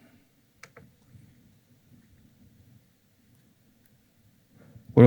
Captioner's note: silence